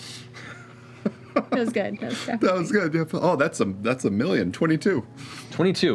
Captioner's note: laughs